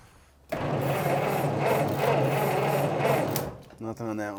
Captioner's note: engine sputters